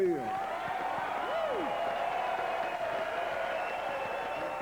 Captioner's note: cheers